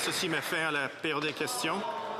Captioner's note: applause